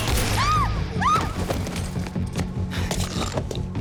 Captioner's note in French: Les passants crient